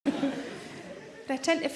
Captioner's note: audience laughs